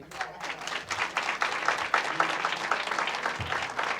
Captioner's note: applauding